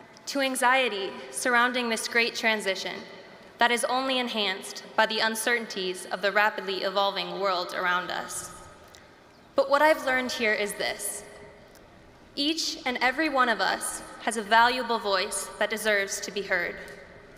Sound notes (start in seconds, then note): none